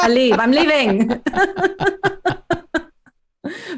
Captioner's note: laughter